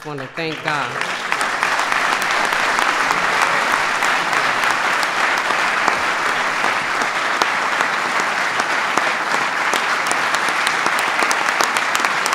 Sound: applause

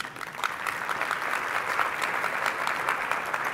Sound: clapping

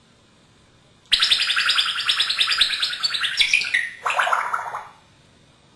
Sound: sound of water pouring

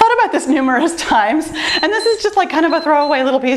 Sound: timer beeps

